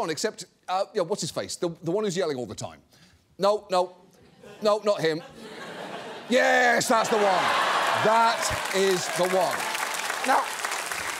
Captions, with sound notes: except, uh, you know, what's his face? The one who's yelling all the time. No, no. No, not him. (SCATTERED LAUGHTER) -Yes, that's the one. -(AUDIENCE LAUGHS) -That is the one. -(AUDIENCE APPLAUDS) Now,